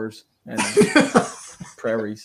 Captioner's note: laughing